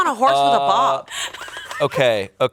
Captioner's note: crew laughs